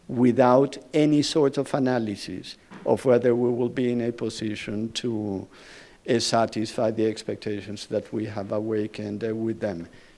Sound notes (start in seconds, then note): none